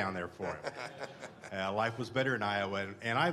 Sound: laughter

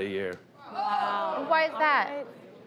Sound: crowd yells

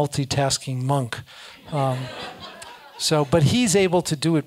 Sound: laugh

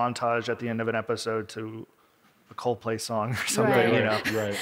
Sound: laughs

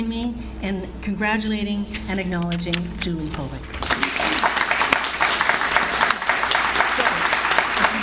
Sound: audience Applauds

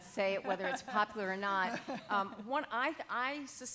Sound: laughing

